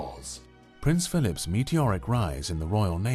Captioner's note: voiceover